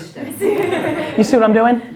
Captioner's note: laughs